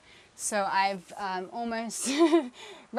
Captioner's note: laughing